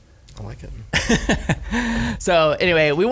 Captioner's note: laughs